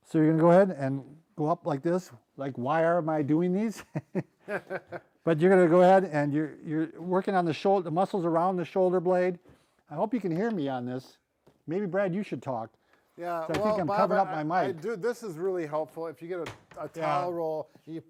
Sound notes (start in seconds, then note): 3.7 laughs